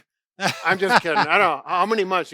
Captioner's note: laughs